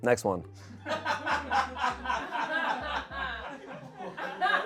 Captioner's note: audience laughing